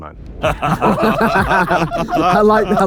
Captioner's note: group laughs